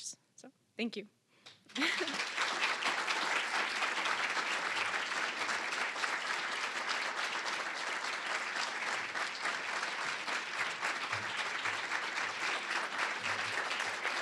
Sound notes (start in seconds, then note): 1.4 applause